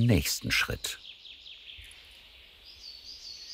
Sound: birds chirping

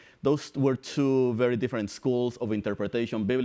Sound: none

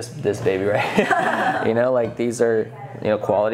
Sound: laughing

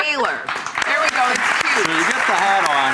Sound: clapping

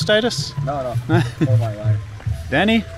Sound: laughing

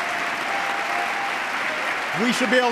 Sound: applause

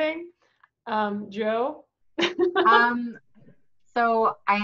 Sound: laughs

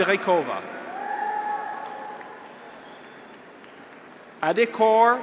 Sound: graduates cheer

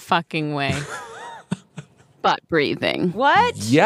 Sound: laughs

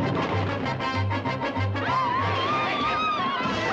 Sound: woman screams

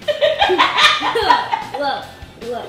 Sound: laughing

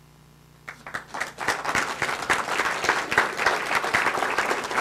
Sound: audience clapping

